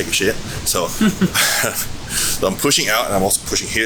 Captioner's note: giggling